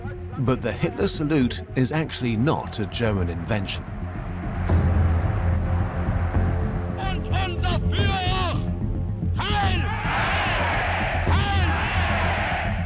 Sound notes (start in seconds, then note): 6.6 male voice speaking German